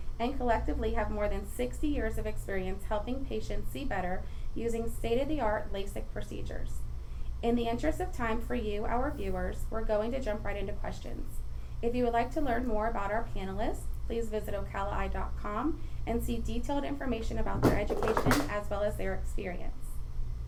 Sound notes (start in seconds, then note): 17.5 rattling